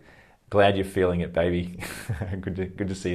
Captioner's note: laughs